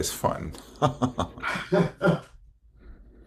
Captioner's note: laughs